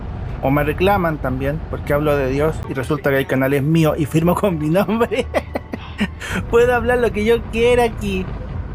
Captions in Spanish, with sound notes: o me reclaman también porque hablo de Dios y resulta que el canal es mío y firmo con mi nombre (risas) ¡puedo hablar lo que yo quiera aquí!